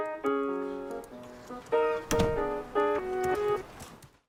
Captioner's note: soft Jazz; door creaks shut, music fades